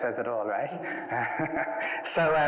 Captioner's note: laughs